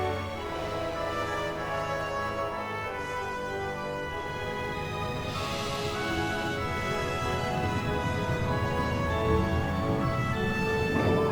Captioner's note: explosion